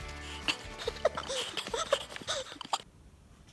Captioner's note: laughing